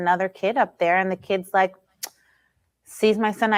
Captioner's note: clicks tongue